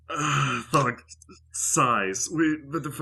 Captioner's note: Thog sighs